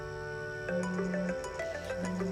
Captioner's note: Celular sonando